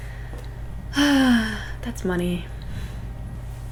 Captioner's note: sigh